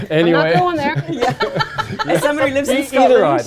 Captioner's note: laughing